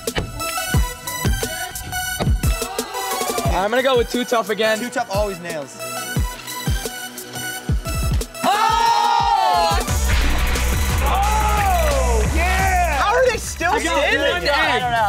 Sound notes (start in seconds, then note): 0.2 electronic music; 6.6 electronic music; 8.4 screaming